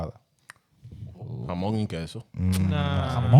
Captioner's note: speaking In Foreign Language